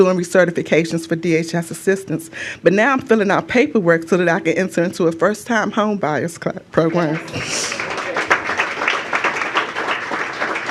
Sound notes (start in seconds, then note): 6.9 applause